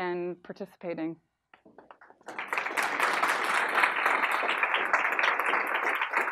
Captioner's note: audience clapping